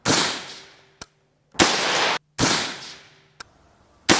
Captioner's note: gunshots